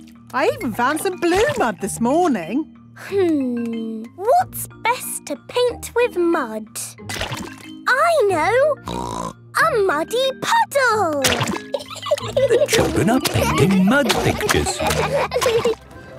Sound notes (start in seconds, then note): 11.6 laughing